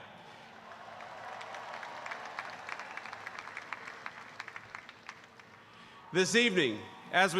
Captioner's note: applause